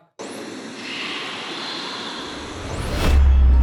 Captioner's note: voiceover